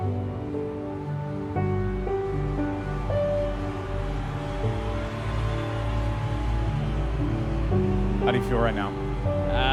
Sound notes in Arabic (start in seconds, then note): 3.9 تشجيع الجمهور